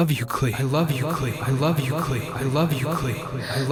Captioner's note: echoes